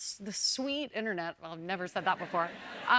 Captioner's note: laughter